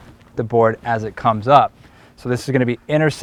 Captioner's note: none